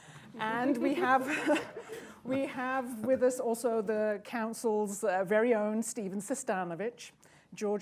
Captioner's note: laughter; laughs